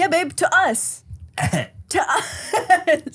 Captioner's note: coughs; laughs